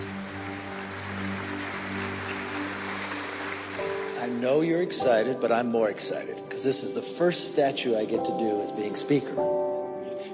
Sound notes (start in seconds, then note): 0.0 attendees applaud; 0.2 ethereal music